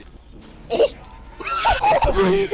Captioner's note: wheeze